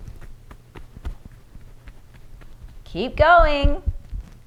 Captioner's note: quiet tapping